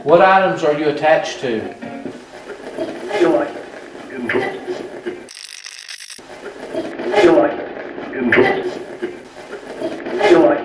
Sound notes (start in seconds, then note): 5.1 radio scratching; 10.1 radio voices